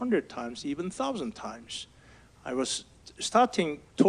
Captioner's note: none